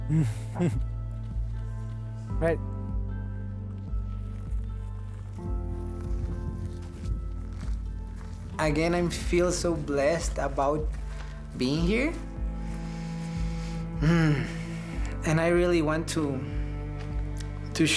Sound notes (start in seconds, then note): 0.1 chuckles; 4.0 departing footsteps